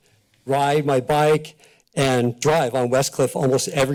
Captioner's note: none